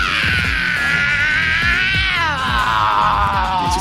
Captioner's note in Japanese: 叫び声